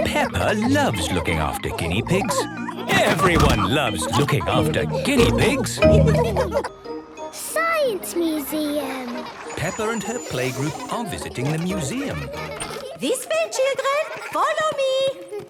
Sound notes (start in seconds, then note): 0.0 snorting and giggling; 6.0 laughter